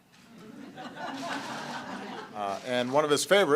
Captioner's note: laughter